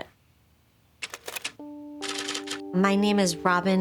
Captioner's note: typewriter keys clacking